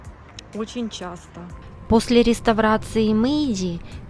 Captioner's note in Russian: закадровый голос